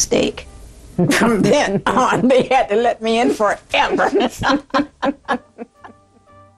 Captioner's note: laughter